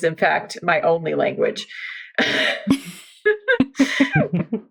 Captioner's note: laughs